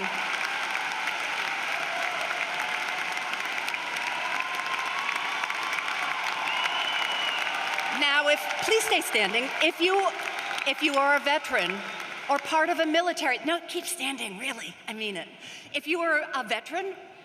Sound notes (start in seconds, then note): 0.0 cheering and applause; 10.4 cheering and applause